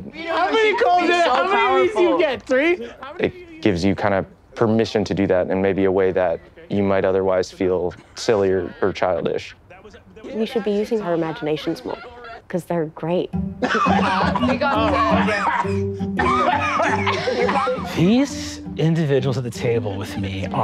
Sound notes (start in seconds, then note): 13.5 group laughing and chattering; 13.6 playful music